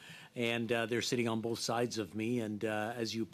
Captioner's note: speaking French